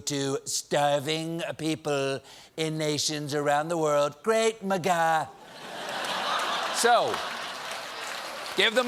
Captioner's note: laughter